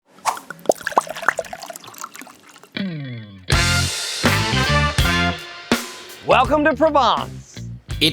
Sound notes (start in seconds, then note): 0.1 liquid pouring; 3.5 lively music